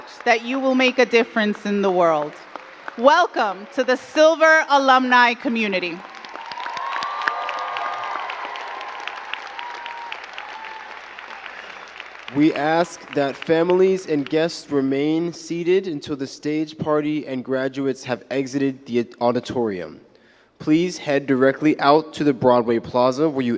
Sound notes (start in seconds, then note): 7.0 crowd cheering and clapping